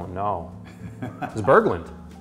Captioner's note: laughing